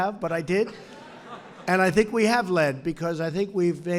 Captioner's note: laughter